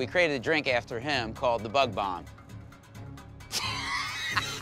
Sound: laughs

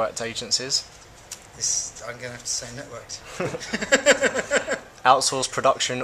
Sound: laughs

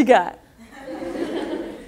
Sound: audience laughter

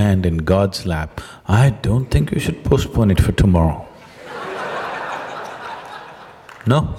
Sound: laughter

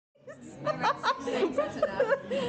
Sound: laughter

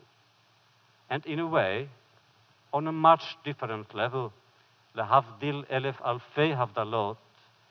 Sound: foreign language

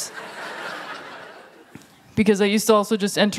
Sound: laughter

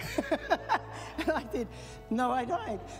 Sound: laughs

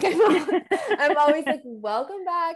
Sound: both laughing

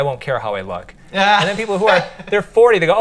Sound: laughs

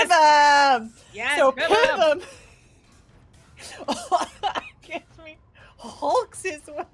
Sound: coughs

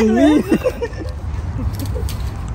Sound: laughing

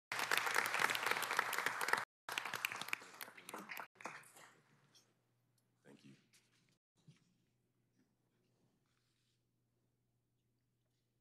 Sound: applause

